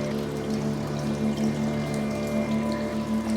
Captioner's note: water running